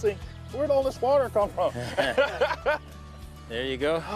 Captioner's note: laughing